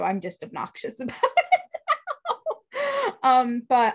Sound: laughs

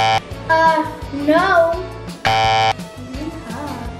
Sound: beeps buzzer; beeps buzzer

